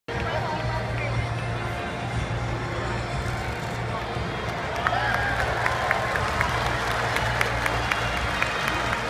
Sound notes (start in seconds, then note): 4.0 audience applause